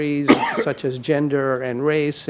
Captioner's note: coughs